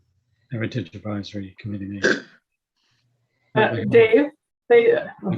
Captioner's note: coughing